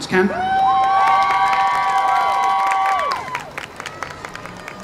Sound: audience cheers

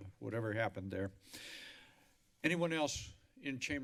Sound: inhales deeply

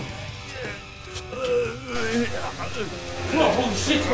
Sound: Spidey moaning

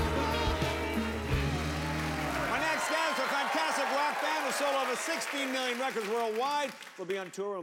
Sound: cheers and applause

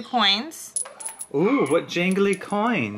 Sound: coins jingle

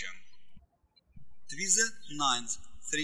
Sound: birds chirping

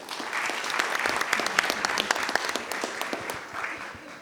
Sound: attendees applauding

